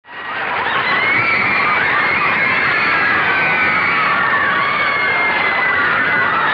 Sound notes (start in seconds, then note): 0.0 audience screaming; 0.0 cheering